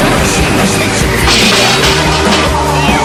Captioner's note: crash!